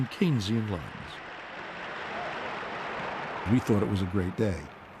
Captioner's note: audience applauding